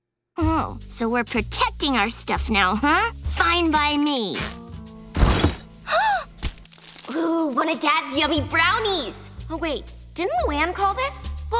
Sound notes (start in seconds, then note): 5.8 gasping